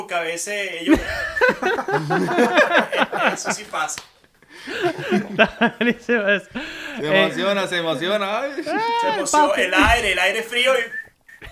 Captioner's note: laughter